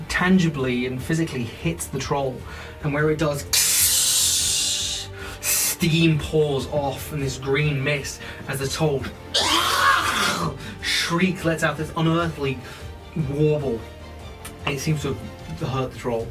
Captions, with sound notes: tangibly and physically hits the troll and where it does [Sizzling noises] Steam pours off from this green mist as the troll [shreiking troll noises] shriek lets out this unearthly warble. It seems to have hurt the troll.